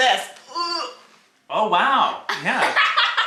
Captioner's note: groans; laughs